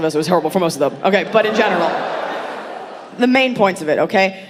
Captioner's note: audience laughing